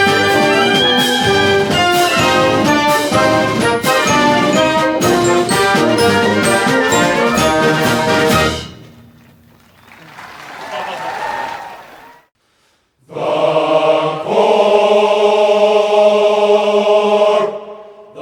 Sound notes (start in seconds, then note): 9.4 audience cheering